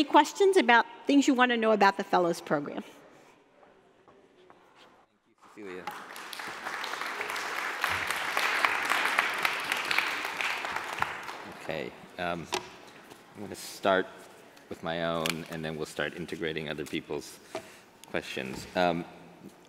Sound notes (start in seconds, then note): 5.7 applauding